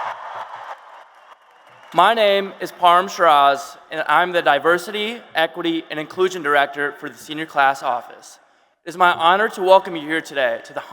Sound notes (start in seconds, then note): 0.0 applause and cheers